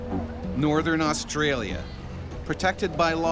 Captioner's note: voiceover